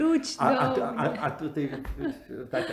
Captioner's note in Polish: ze śmiechem